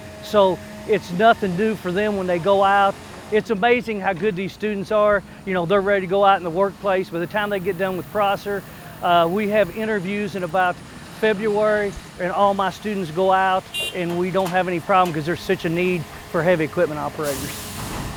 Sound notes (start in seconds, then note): 12.3 horn honks